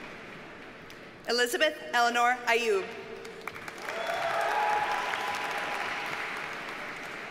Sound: audience cheers and applauds

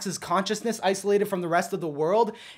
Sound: none

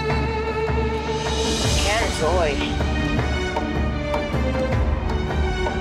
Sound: speaking foreign language

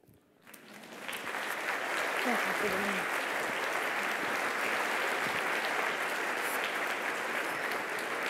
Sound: applause

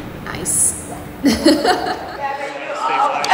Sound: laughing

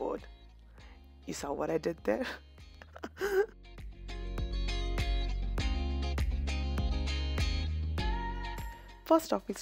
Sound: laughs at my own pun

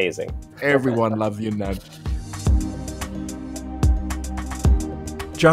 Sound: voiceover

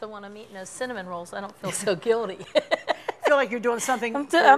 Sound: both laugh

